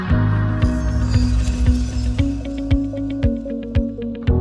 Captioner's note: screen whooshing